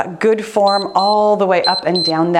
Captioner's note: timer beeps